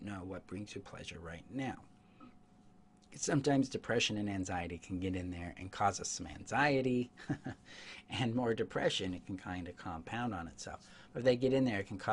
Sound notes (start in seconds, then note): 7.1 chuckles